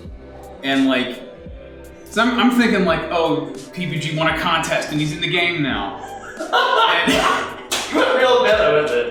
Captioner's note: laughter